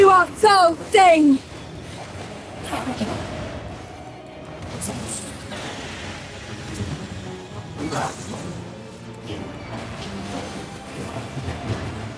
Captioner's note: explosions